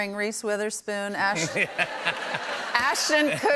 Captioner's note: laughter